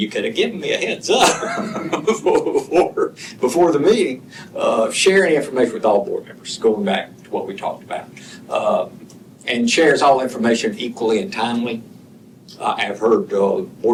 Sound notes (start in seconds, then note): 1.2 laughter